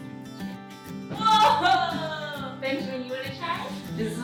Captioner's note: exclaims